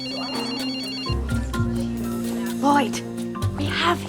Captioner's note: telephone ringing